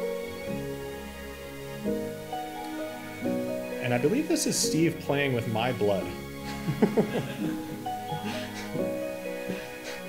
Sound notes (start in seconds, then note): 0.3 relaxing music; 6.5 laughs